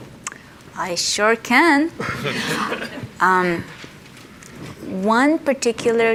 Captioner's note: audience laughs